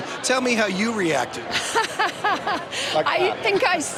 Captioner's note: laughter